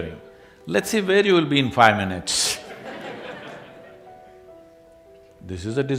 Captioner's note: laughter